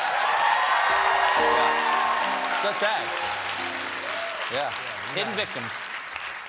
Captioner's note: cheers and applause